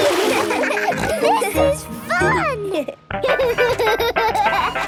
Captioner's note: giggles, snorts; giggling